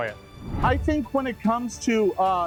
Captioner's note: thundering